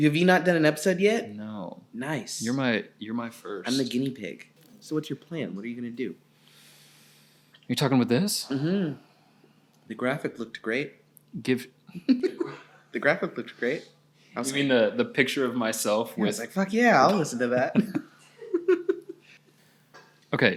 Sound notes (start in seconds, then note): 12.0 laughing; 17.5 laughing